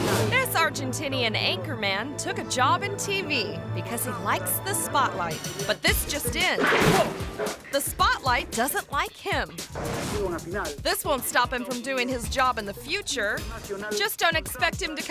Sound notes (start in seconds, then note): 0.0 audience laughing; 6.6 spotlight clangs